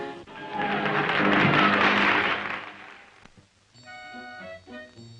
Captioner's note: applause